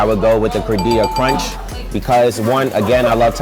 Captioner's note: dinging